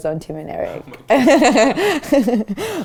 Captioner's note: laughs